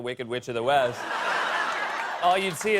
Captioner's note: laughter